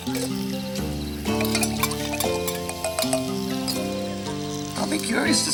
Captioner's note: water splashes; spoon clinks